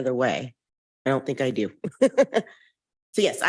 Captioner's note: chuckles